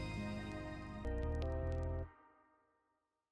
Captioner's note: music Stops